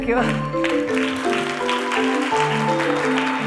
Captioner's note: applause